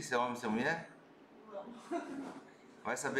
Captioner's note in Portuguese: risos